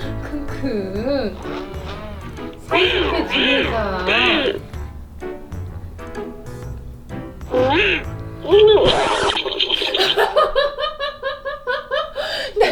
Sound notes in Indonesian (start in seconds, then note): 7.5 bersuara aneh; 8.4 tertawa